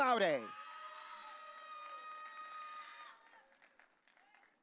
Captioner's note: audience cheering